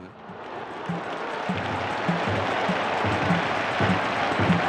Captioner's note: crowd cheering